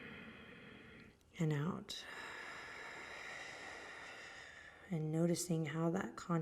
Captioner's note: exhaling